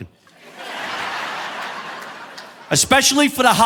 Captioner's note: audience laughing